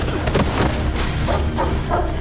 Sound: dog barking

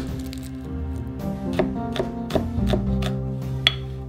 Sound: knife chopping

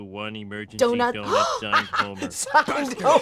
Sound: laughs; gasps

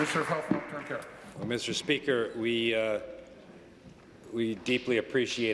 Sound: applause

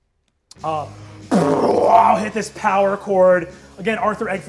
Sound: roars

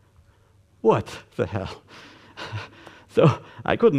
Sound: nervous laugh

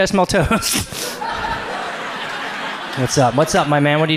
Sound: audience laughs

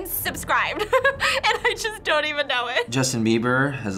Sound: laughs

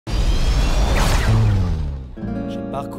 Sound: jet engines firing; romantic music

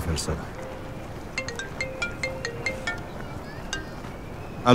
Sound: phone ringing

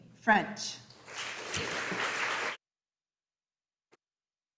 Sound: audience applauding

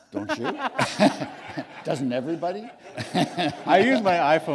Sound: laughter

